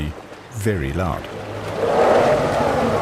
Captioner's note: trumpeting; animals calling